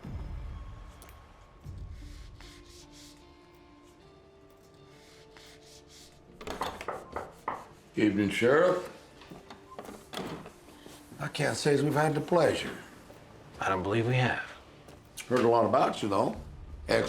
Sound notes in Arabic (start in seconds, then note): 0.0 موسيقى متوترة; 5.9 يطرق الباب